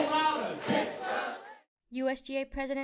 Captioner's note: crowd